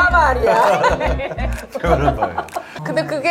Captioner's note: haha